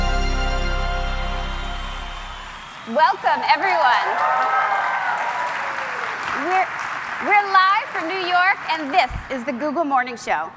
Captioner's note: cheers and Applause